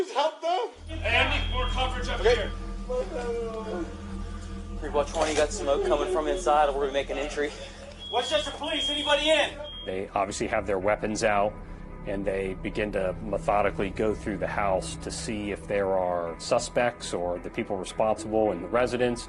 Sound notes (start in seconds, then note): 3.1 groaning